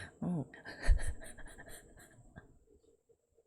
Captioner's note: laughs